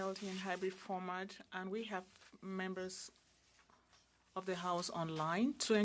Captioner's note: speaking Alternate Language